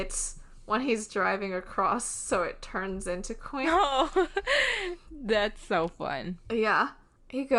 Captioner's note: laughs